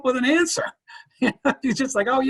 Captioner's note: laughing